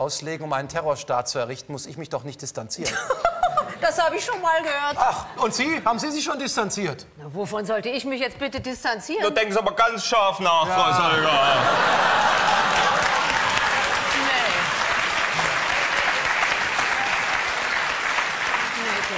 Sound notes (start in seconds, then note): 2.8 laughter; 8.8 Saxonian accent